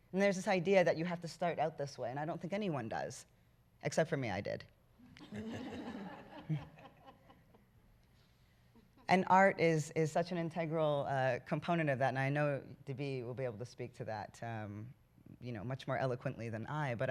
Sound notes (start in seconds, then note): 5.1 laughter